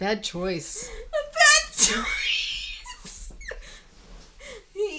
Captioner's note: laughing